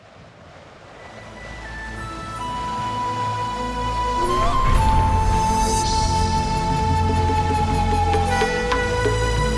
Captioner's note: bells chimes; intro music